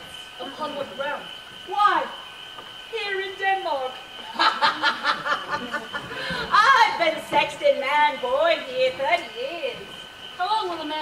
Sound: laughs

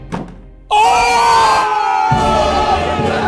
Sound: all cheering; celebratory music

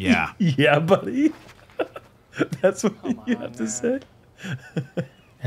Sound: laughs

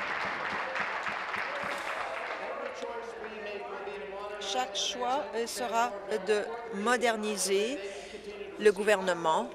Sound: applause

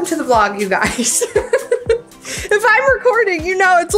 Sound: laughs

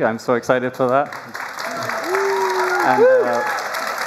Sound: applause

